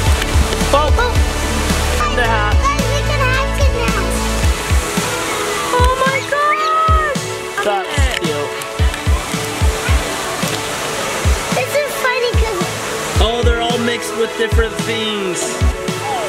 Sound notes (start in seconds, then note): 0.2 exclaims; 8.9 rushing water